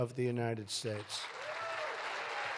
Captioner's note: applause